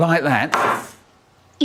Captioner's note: Minnie slams pie on table